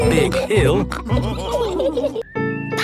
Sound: all laughing

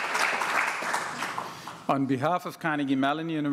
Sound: applause

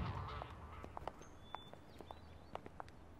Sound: footsteps

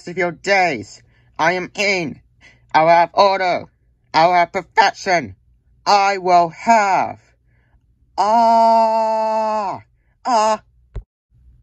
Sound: screaming

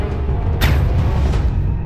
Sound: silenced gun shot; man slams to the ground

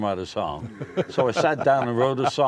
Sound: laughter

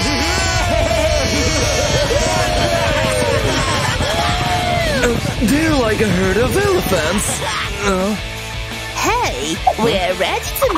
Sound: screaming happily

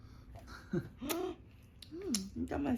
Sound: nom nom

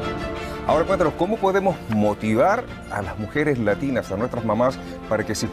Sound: speaking in a foreign language

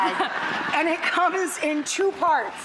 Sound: audience laughs

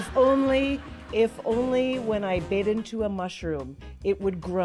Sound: laughter

